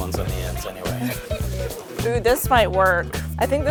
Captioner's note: laughing happily